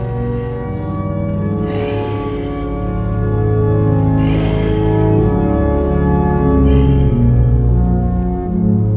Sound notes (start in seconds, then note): 1.5 Nugget snorts